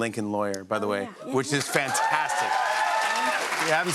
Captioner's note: cheers and applause